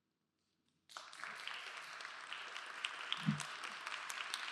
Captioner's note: applause